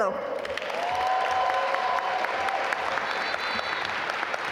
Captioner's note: audience applaud